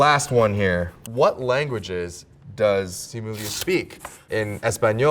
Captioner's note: paper rips